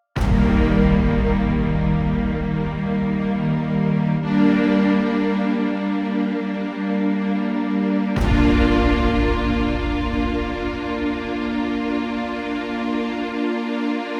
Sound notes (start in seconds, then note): 0.1 intense dramatic music; 8.2 image banging